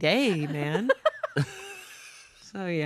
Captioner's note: everyone laughs